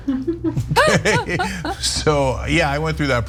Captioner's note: laugh